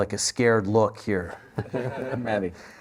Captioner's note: laughter